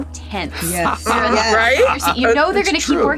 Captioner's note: Gould laughs